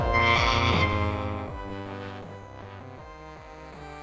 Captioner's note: screeching